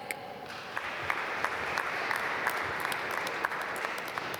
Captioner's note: applause